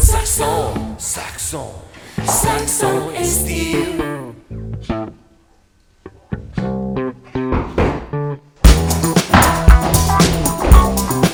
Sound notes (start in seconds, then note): 8.6 banging